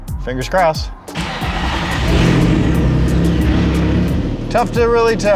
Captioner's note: engine starting